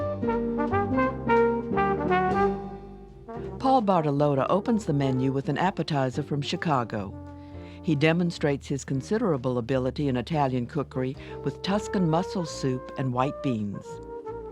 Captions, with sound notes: (jazz music) - [Voiceover] Paul Bartolotta opens the menu with an appetizer from Chicago. He demonstrates his considerable ability in Italian cookery with Tuscan mussel soup and white beans.